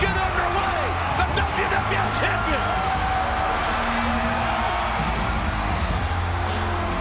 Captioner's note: crowd cheering continues